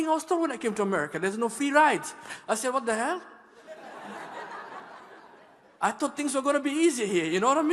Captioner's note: laughter